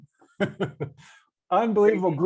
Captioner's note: laughing